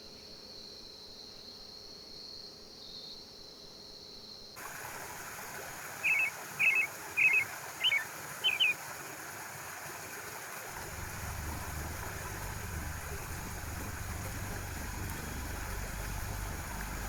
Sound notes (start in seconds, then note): 4.6 water lapping; 6.0 bird warbling